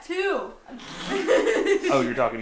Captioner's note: laughing